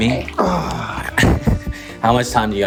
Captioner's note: sighs